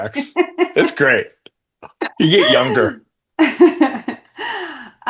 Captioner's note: laughing